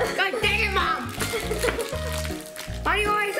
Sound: giggles

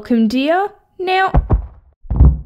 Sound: thud!

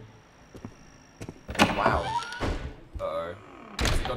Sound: door creaks

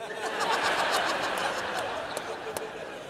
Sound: laughter

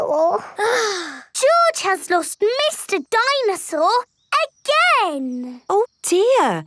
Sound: sighs

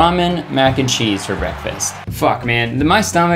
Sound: audience cheering

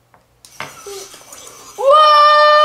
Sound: motor running

